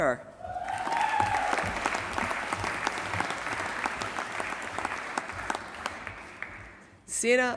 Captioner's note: applause